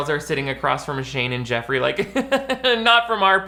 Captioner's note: laughing